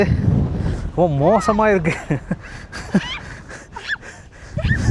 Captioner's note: laughter